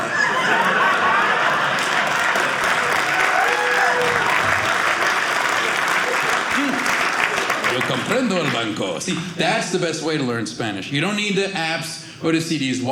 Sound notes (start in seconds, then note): 0.0 audience laughing; 1.6 audience cheering